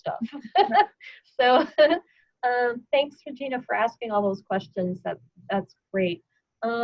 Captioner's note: laughter